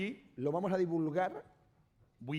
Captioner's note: speaking spanish